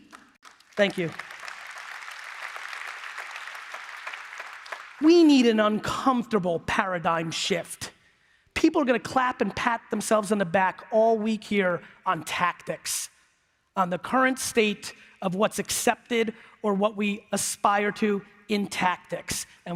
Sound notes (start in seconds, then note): 5.8 applause